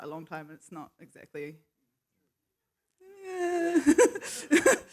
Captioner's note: laughs